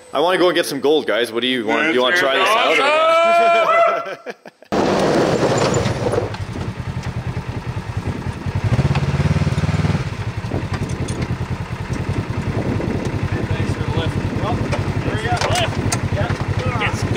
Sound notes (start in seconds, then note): 2.4 screaming; 4.8 car sliding; 8.6 motor humming